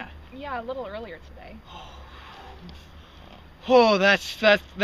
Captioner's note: Alex breathes a sigh of relief